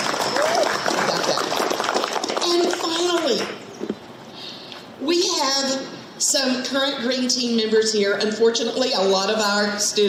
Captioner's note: audience clapping